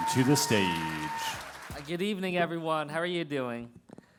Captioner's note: applause